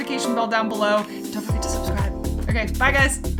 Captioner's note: whispers